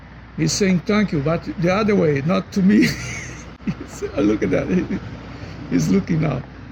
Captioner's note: laughing